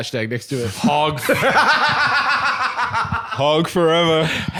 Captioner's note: laughing